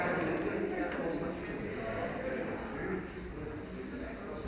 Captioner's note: attendees chattering